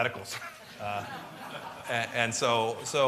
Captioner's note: laughter